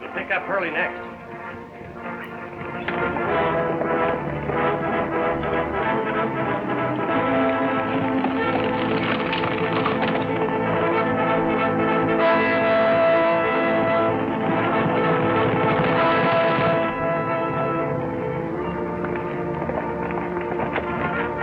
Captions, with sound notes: - Let's pick up Hurley next. (lively orchestral music) (horses galloping) (lively trumpet music) (suspenseful music)